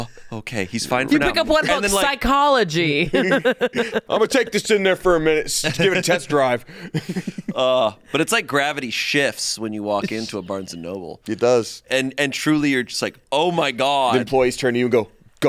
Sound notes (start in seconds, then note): 3.1 laughs